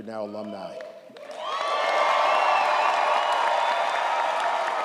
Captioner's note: audience applauds & cheers